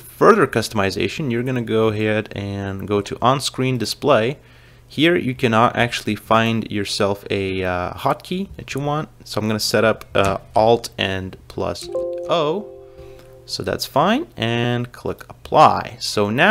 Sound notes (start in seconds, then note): 11.8 Windows notification sound